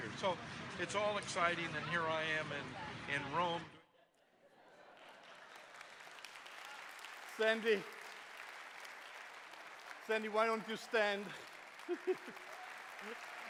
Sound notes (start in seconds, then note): 4.4 laughter; 5.9 applause; 11.8 chuckles